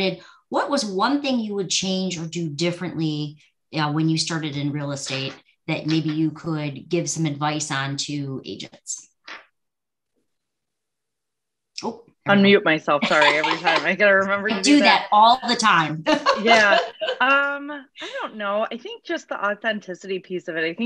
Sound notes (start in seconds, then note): 16.0 laughs